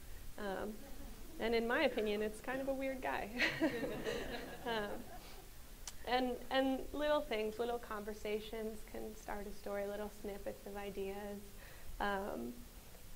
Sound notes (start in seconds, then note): 3.4 audience laughs